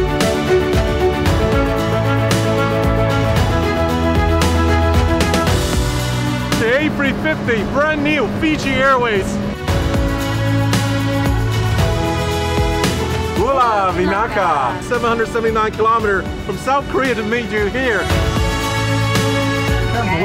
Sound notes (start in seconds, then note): 0.3 upbeat music; 9.7 upbeat music; 13.6 speaking in foreign language